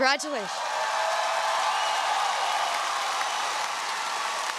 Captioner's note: audience cheering